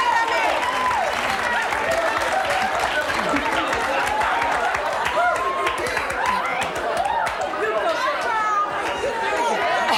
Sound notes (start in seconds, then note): 4.0 audience chatters